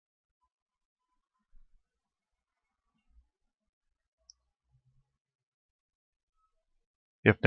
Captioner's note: silence